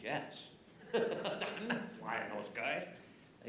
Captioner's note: laughs